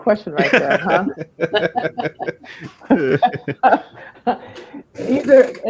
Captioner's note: laughter